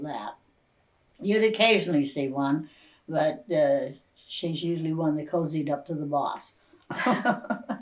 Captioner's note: laughs